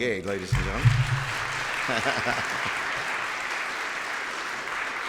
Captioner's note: clapping